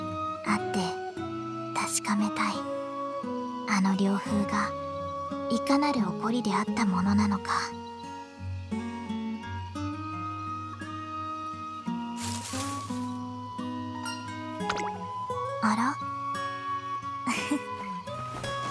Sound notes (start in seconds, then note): 11.9 fwish fwish; 17.2 giggle